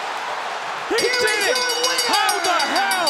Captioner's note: bell rings